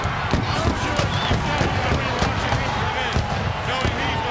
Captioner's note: fireworks popping; fireworks popping drowns out commentator